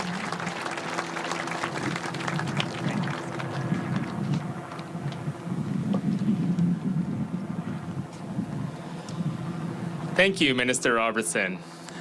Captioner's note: applause